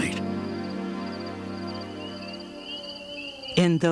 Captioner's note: crickets chirping; female, Native American, voice